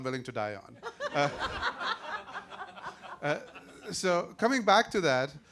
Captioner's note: audience laughing